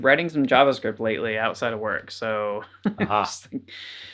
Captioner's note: laughs